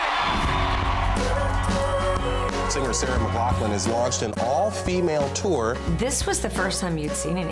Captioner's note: cheers and Applause